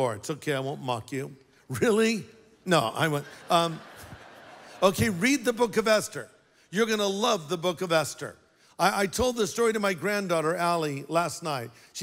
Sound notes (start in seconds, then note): 3.0 laughter